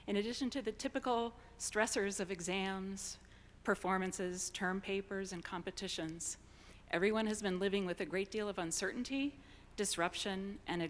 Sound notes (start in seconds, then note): none